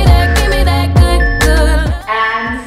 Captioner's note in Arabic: صوت المؤقت